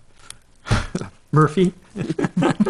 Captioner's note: chuckles